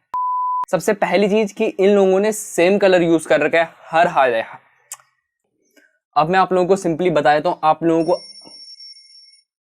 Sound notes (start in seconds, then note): 0.0 beep; 7.9 alarm rings